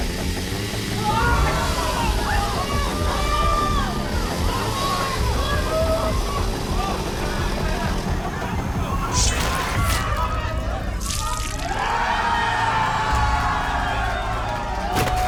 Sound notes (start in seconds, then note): 0.0 chainsaw whirs; 1.4 crowd shouts; 9.0 sword swishes; 10.1 crowd shouts; 11.6 crowd cheers